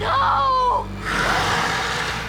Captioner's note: loud growl